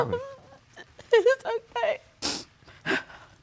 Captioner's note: sniffling